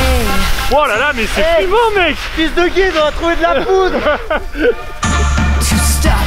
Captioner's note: laughs